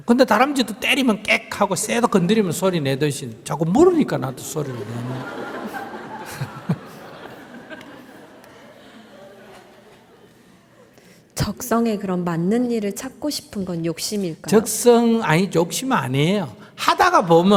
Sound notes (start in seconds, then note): 0.3 audience Laughter; 9.7 laughter